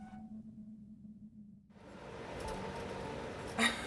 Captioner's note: door creaks open; eerie wind blows; laughs